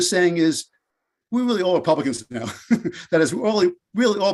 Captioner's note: laughs